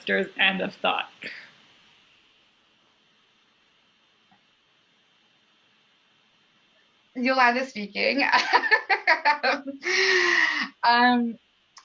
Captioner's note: laughter